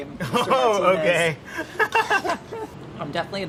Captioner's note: laughs